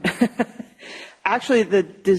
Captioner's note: laughter